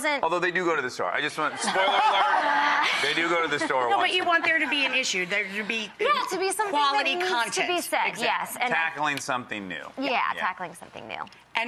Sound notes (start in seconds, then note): 1.5 audience and Kristen laugh